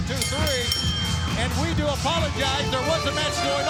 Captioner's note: bell dinging